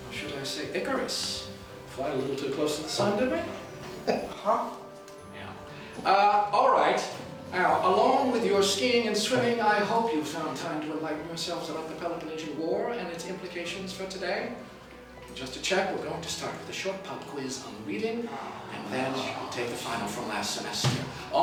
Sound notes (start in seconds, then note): 3.9 laughs; 18.2 students groaning